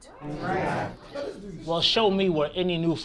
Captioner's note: crowd gasps